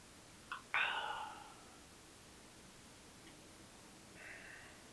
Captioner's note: Jacob sighs